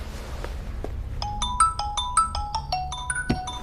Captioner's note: incoming Call